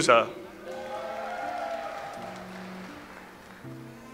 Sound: audience applauds

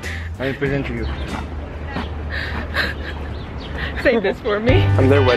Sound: laughing

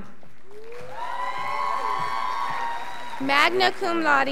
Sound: scholars applauding

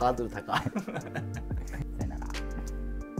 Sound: laughing

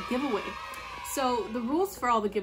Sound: kids cheering

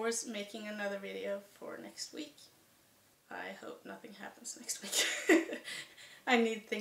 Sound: chuckle

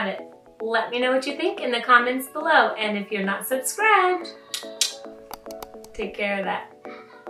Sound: click sound

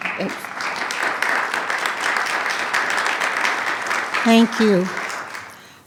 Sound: attendees clapping

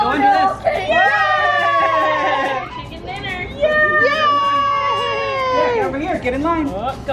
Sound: all cheering

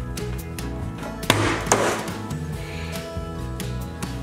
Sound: box crashing

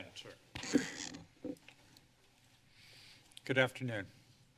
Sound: mic rustling

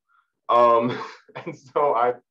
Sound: laughing

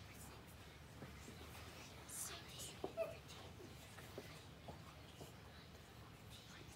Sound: children whispering

